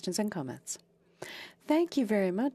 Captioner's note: speaking French